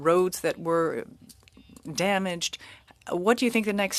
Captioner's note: speaking french